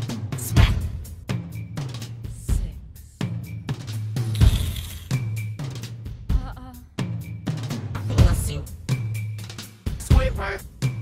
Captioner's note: slurping noises